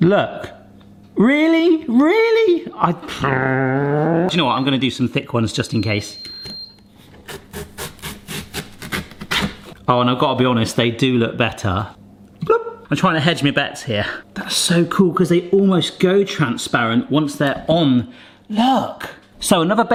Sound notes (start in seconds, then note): 3.1 grumbles; 7.2 pear scraping